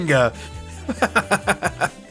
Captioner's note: laughs